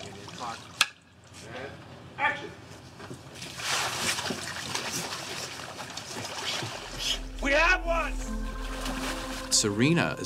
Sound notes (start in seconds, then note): 3.7 hissing